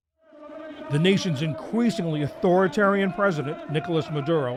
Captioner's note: voice-over